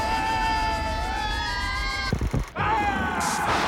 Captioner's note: siren wails; laughs maniacally